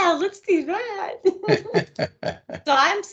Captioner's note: laughing